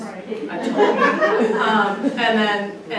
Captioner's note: audience laughs